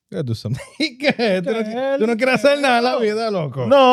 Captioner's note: speaking In Foreign Language